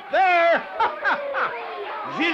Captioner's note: laughs